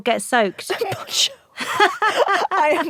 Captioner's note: both laugh